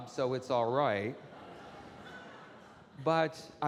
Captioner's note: audience laughing